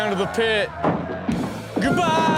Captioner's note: door banging